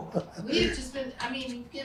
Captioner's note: laughs